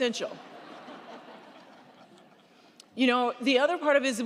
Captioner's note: crowd laughing